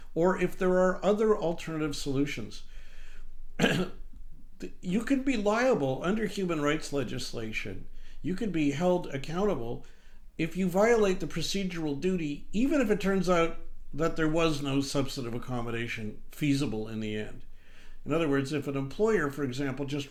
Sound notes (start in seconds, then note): 3.6 clears throat